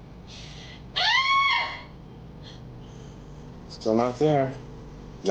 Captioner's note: Betty yells